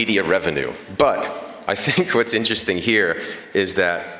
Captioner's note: laughter